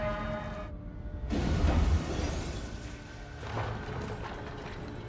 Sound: objects cracking

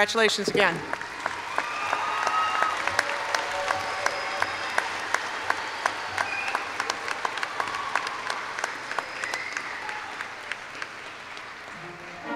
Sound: applause

